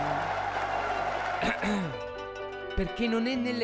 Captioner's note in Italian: Applauso